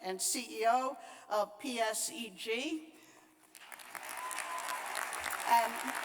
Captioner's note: applause